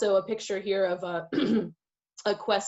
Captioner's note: clears throat loudly